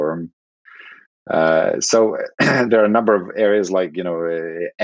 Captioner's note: coughs